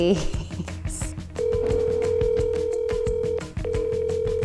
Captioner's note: phone ringing